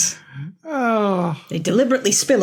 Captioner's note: groans